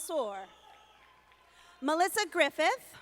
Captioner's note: audience applauding